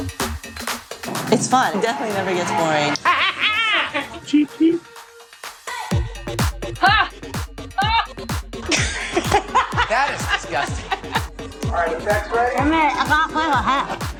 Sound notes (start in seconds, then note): 2.4 cackling; 4.1 imitating bird; 8.6 |aughing; 13.6 mutters